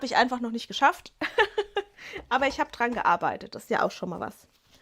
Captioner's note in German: gelächter